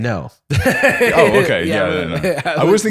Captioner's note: laughs